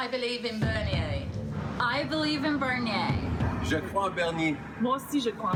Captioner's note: speaking in French